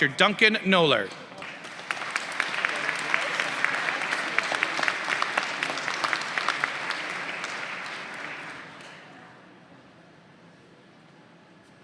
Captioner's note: applause